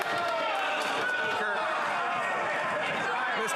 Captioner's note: yelling